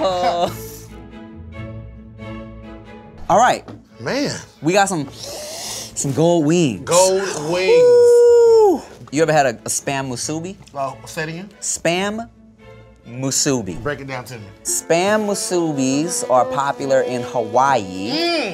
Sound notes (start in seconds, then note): 0.1 soothing music; 5.2 sniffs